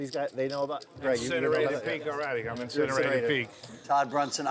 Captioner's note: group chatting